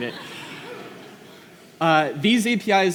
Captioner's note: laughter